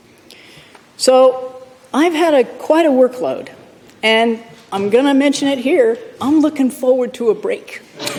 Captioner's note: chuckles